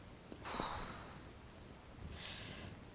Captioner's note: sighing